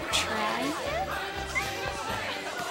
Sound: squeals

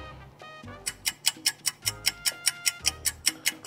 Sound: clock ticking

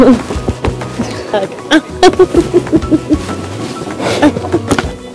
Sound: laughing

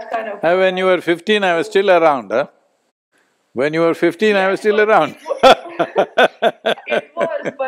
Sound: both laugh

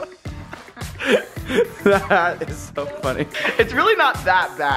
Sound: laughs

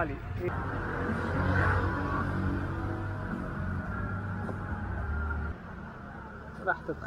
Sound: engine sound

